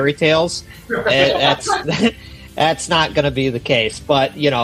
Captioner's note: laughing